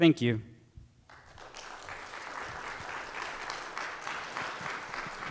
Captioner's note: audience clapping